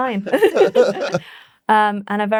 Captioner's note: laughing